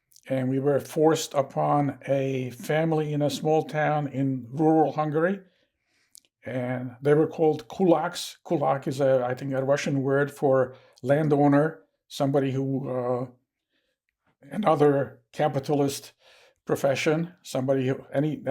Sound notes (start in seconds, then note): 7.6 russian